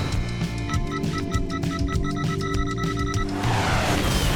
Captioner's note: bomb beeping; Pelican crashing